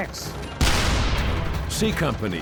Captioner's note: cannon firing